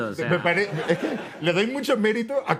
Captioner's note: laughs